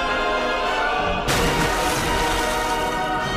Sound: splashing water

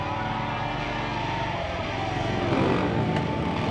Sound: cheering; engines revving

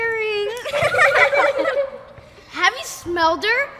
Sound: children laughing

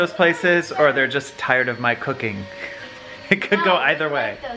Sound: chuckles

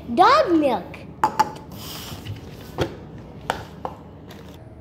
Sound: cup clinks

